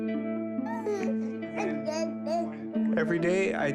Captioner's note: baby gurgling